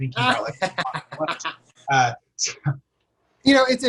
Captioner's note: laughter